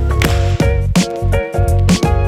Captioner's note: clap